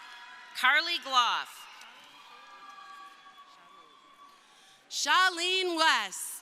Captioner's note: crowd cheering